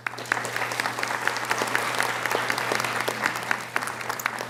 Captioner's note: audience applauding